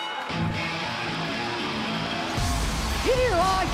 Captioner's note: bell ringing